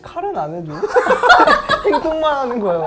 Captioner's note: ha ha ha ha ha ha ha ha ha ha